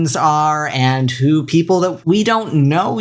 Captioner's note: none